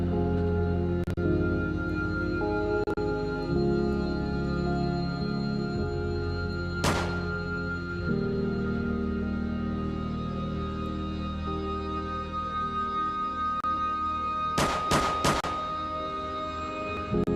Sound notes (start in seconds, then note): 0.3 gun shots